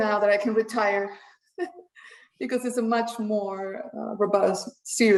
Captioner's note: chuckles